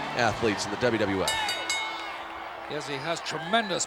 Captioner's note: bell ringing